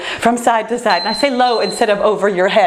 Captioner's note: timer beeps